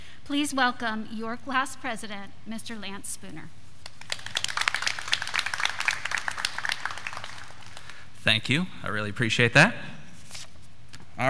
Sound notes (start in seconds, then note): 3.8 graduates clapping